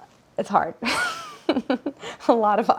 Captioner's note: Claire laughs